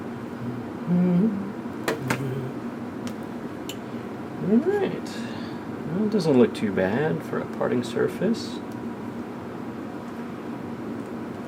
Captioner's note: hums